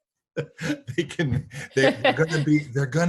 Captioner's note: laughing